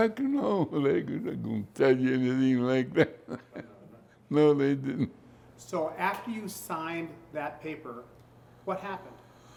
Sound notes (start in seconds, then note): 2.6 laughs